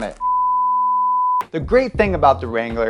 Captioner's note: test pattern beeping